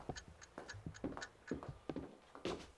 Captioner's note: clock Ticking